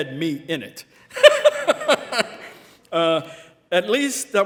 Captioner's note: all laughing